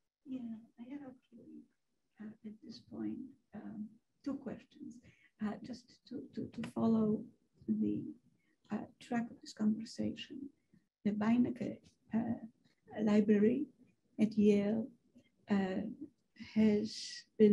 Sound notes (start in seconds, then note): 2.3 woman's Voice